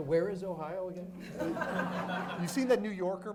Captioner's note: audience laughs